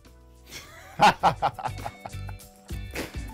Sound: laughs; instrumental music

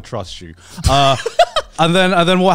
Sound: laughing

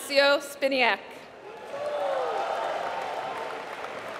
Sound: applause

